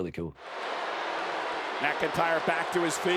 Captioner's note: crowd chattering